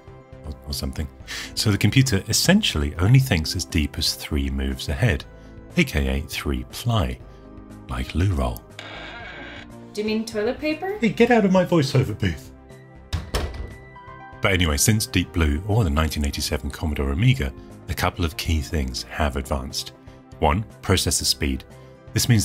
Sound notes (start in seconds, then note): 8.6 door creaking; 13.1 door closing